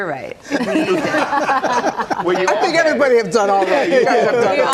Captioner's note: laughter